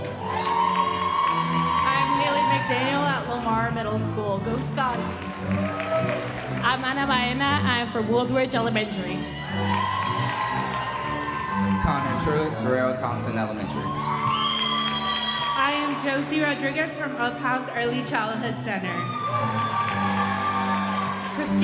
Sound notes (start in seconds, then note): 0.0 audience cheering and applauding; 4.0 audience applauding; 9.3 audience cheering and applauding; 14.0 audience cheering and applauding; 18.3 audience cheering and applauding